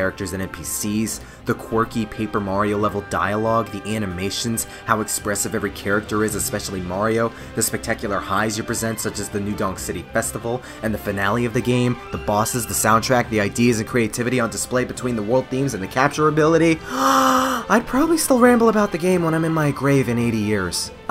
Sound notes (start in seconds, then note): 16.8 inhales